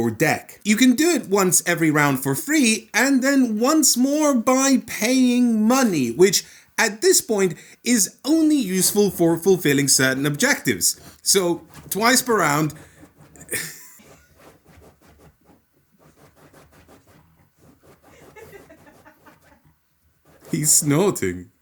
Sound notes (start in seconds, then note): 12.9 scratching noises; 18.1 laughter in the background